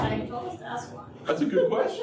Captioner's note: laughter